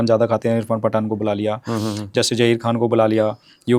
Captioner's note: nasal voice